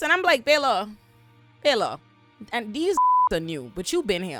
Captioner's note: beep